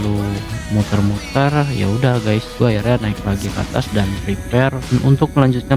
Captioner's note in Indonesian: tertawa